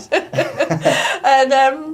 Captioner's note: laughter